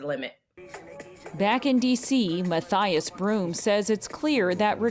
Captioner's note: voice-over